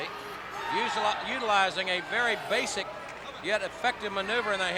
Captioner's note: crowd clamoring